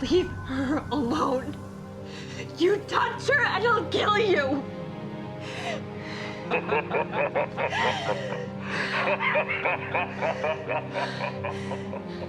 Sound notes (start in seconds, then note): 1.4 dramatic music; 4.7 dramatic music; 6.4 kidnapper laughing